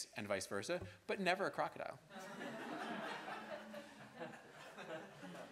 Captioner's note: students laughing